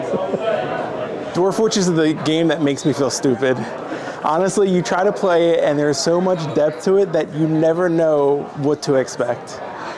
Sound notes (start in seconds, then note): 3.7 chuckles